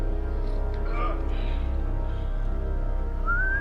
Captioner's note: grunting